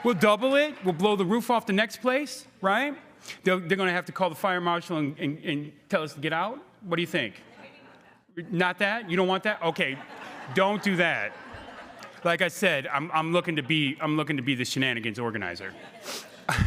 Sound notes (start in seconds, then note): 11.3 crowd laughing; 15.7 laughing